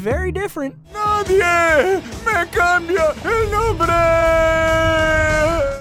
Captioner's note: speaking Spanish